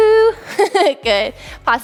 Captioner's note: chuckles